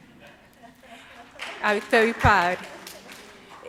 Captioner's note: audience applauds